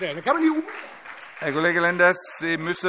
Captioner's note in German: Beifall Freie Demokraten